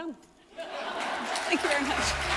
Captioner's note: audience laughs and applauds